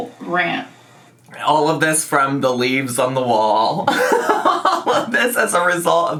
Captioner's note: laughs